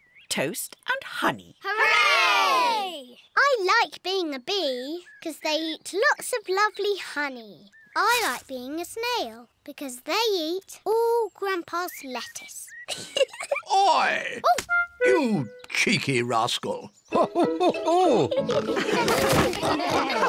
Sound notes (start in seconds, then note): 12.8 giggles; 17.1 all laughing